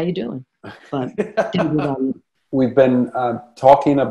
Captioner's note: laughing